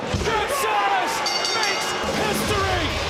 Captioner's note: bell rings